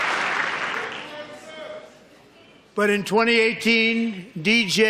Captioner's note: applause